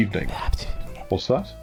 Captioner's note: whispering